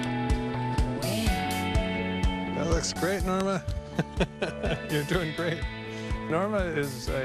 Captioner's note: chuckles